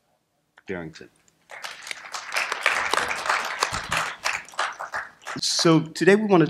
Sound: applause

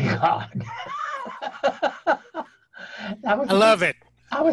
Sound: laughing

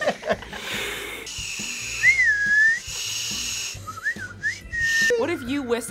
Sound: group laughs; blows; whistles

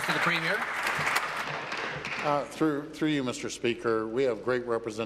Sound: applause

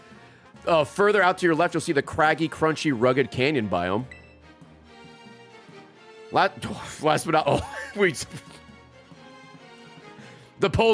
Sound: laughs

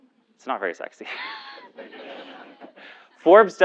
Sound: laugh

